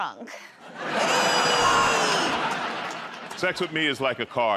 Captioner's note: laughter